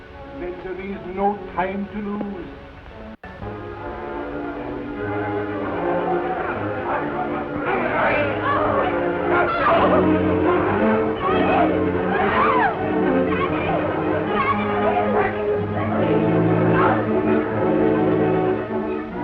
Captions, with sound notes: - Then there is no time to lose. (Cat Worshipers chatter) (women shout)